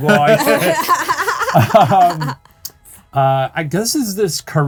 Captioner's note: group laughing